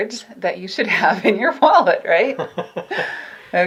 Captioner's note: light laughter